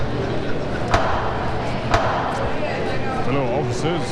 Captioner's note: gavel banging